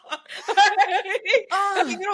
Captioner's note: laughing